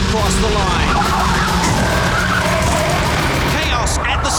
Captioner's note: tires screeching